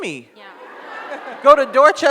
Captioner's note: audience laughs